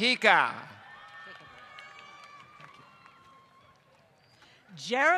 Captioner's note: applause